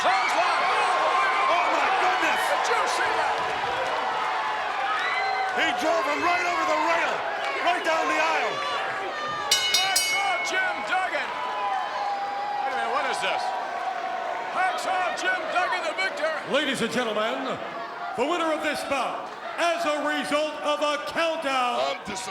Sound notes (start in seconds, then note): 4.4 crowd cheers; 9.4 bell rings